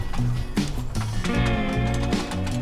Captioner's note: knocking